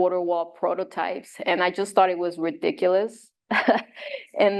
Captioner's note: chuckles